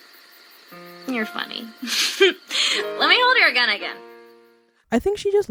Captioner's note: laughs